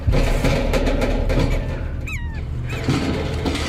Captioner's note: trash can clanging and shaking; gulls squawking